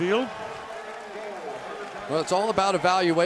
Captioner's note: pa announcement